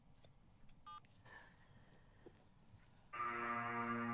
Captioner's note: phone beeps; intense music